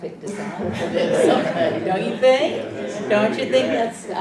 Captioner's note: laugh